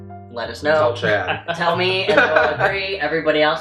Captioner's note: laughs